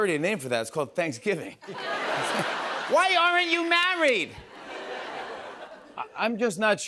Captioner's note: laughter